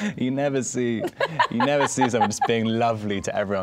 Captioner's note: laughing